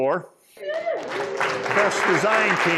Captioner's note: applause